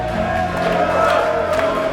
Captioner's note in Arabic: هتاف